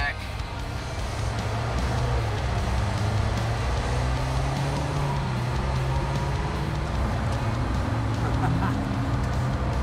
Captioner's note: engine accelerating; laughing